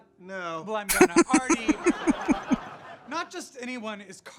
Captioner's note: laughing